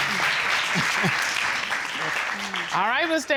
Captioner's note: laughs